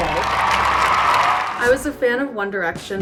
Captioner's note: crowd cheers